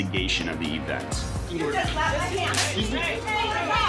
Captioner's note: indistinct chatter